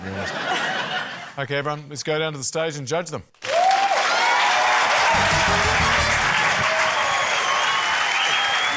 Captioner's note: laughter; cheering, applause